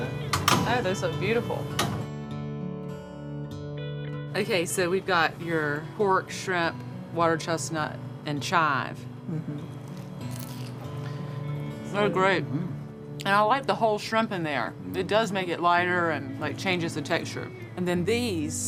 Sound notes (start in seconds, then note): 9.9 dumpling crunching